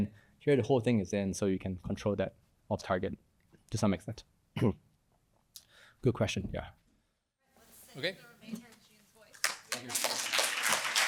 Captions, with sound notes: Here, the whole thing is in, so you can control that off target to some extent. Good question [APPLAUSE]